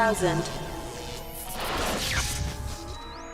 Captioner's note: static noise